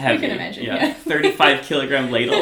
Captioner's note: laughs